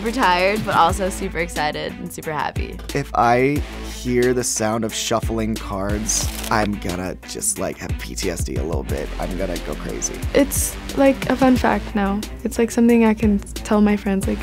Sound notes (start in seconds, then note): 6.1 shuffling cards